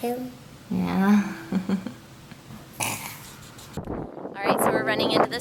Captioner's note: laughs